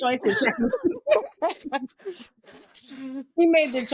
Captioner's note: all laughing